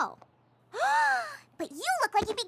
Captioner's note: gasps